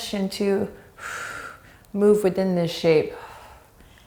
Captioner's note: deep breath; deep breaths